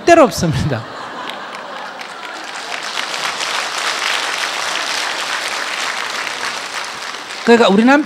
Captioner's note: audience laughter and applause